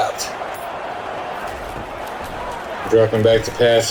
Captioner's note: crowd Noises